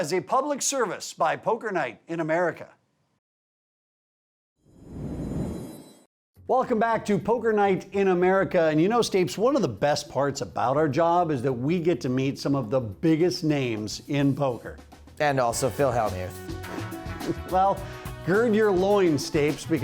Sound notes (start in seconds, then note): 16.7 laughing